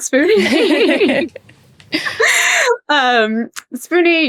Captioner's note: group laughing